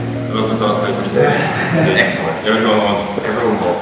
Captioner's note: speaking in a foreign language